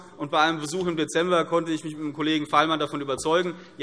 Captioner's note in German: none